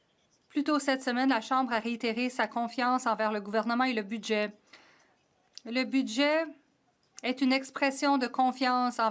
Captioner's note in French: voix de l'interprète